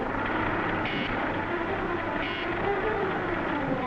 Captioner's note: beeping